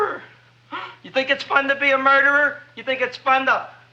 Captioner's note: gasps